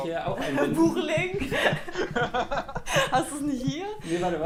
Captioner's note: laughter